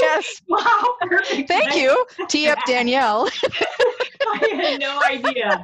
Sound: laughing

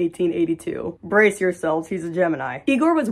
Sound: mumbling

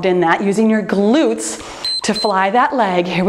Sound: timer beeps

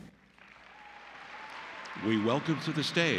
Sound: applause

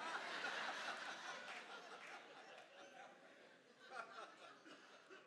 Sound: congregation laughs

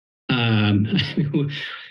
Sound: chuckles

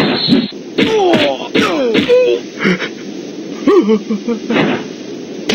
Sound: grunting

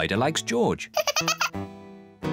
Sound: spider laughs

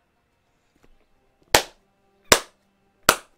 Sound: clap

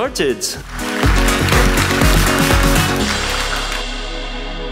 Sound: applause

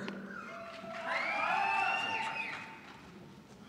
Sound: scattered cheering

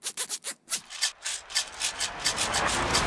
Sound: rattling

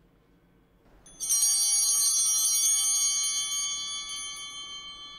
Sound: chimes ringing

